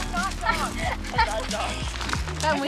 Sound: laughs

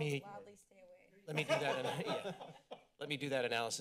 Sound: laughter

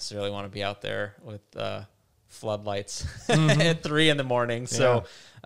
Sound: laughs

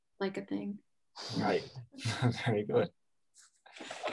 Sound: chuckles

